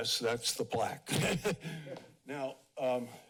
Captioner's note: laughs